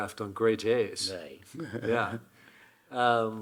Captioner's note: Hiroshi chuckling